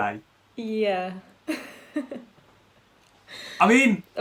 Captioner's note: laughs